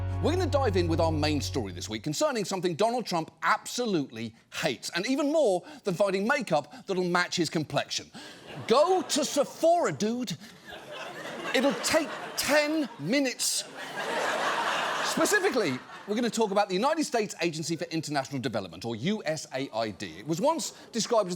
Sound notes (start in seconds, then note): 10.5 audience laughs